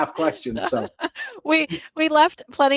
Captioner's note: chuckling